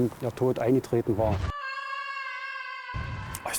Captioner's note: horrifying scream